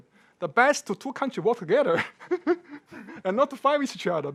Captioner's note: laughing